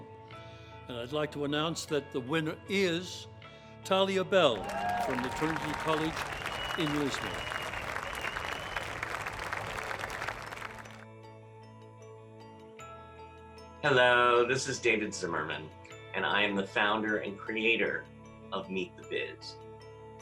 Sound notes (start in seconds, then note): 7.7 audience applauding